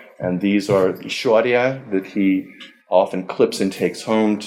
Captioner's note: foreign language